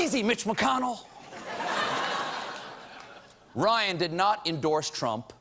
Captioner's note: laughter